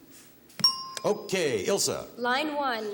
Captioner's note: ting